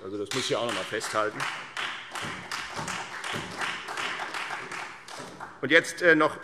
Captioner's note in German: Beifall Freie Demokraten und vereinzelt SPD